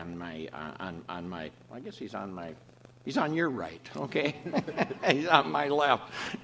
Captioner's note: off camera laughter